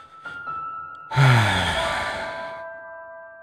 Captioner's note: sigh…